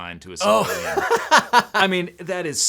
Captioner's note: laughing